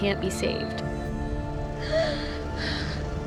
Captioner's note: sobbing